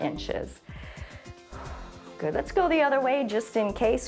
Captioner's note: inhales and exhales